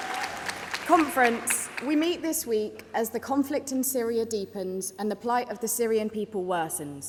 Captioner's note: applause